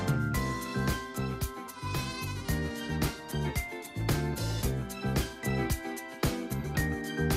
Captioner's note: goat bleating